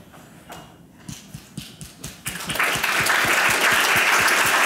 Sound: audience applause

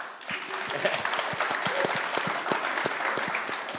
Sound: audience applauds

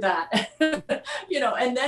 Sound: laughs

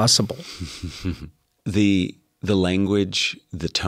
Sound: laugh

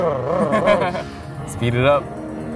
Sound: laughing

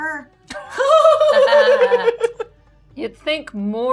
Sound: gamer laughing

